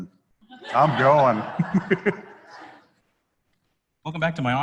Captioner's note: laughter